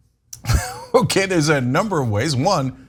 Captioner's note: laugh